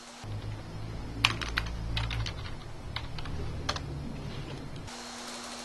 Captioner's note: keys clicking